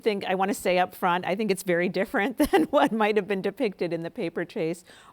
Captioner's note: laughs